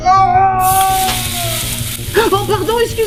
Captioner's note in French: Bruit de brûlures de café